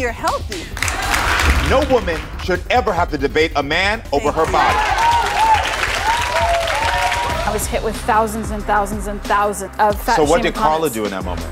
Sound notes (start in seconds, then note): 0.4 audience applauds; 4.1 audience cheers